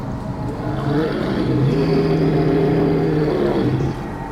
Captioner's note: demon growling